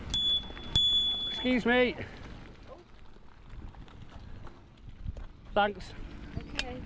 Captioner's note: rings bell